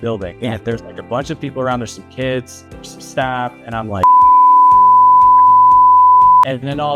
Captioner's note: beep